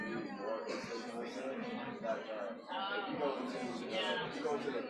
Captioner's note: indistinct crowd chatter